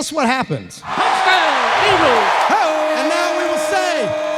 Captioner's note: voice On PA